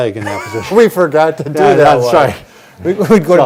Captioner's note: laughing